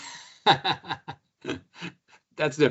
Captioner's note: laughs